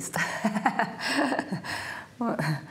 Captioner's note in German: Sie lacht